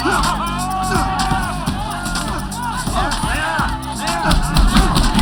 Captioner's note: cheering